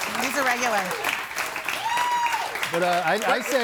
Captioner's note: audience applauds